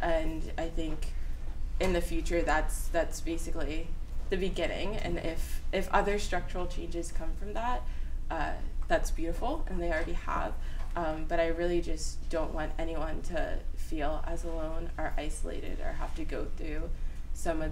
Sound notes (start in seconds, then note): none